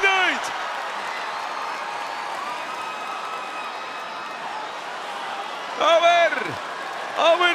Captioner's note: applause